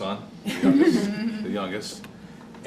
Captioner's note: laughter